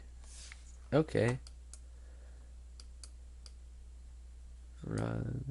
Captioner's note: clicking